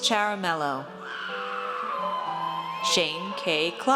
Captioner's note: audience cheers